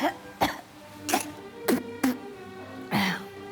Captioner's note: coughing repeatedly; Janara spitting